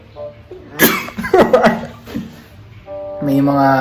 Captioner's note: sneezing and laughing